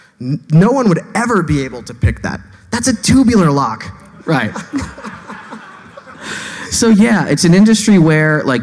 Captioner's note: laughing